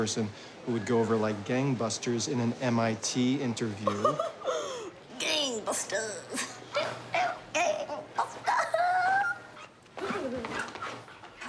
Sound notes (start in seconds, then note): 3.8 laughs; 8.4 chuckles